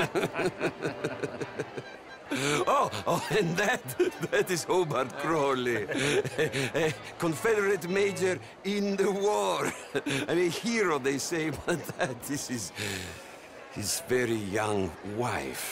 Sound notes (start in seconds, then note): 7.5 laughs